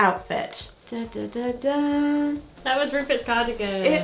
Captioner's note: humming